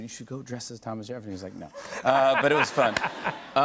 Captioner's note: laughter